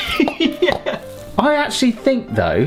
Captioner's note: laughing; upbeat music